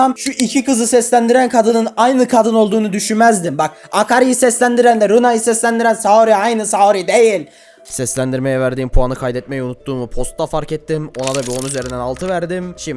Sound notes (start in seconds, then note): 7.5 outta breath